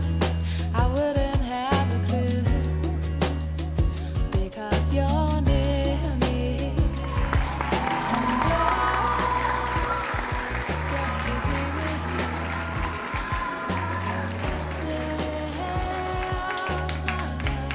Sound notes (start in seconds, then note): 6.8 cheers and applause